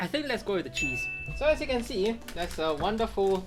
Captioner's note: graphic chimes